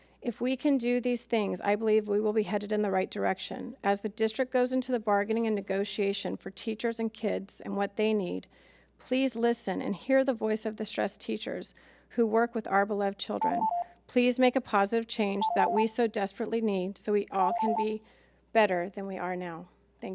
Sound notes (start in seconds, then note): 13.4 timer beeps